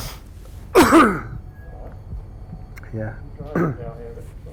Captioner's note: coughing